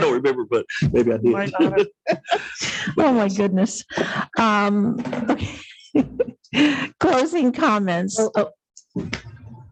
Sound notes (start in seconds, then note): 1.4 laughs